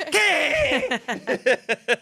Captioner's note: yells; everyone laughs